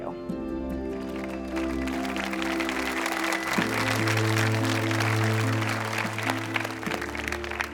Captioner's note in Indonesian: Tepuk tangan